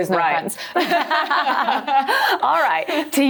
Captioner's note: all laughing